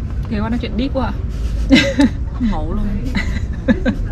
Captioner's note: laughing